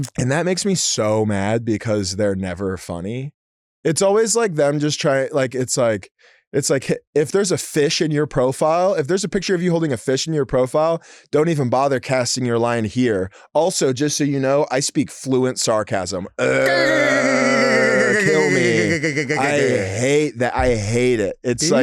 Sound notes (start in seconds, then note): 16.6 blares; 16.6 Delta babbles